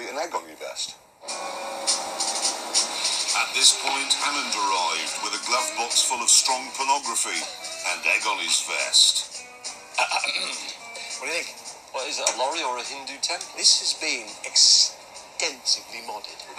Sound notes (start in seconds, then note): 10.1 clears His Throat